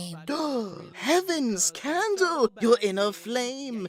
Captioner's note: exclaims